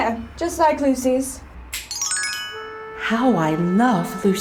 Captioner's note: magical chimes ring